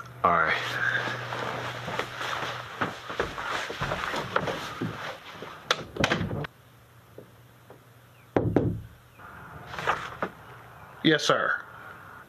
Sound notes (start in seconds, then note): 8.3 knock on door